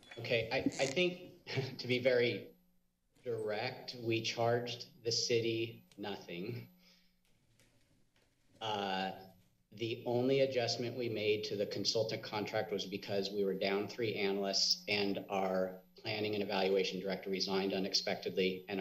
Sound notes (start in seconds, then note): 1.5 awkward giggle; 6.7 silence